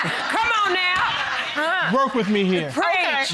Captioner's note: audience laughing; laughs